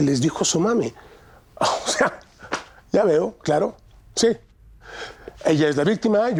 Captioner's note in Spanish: Ríe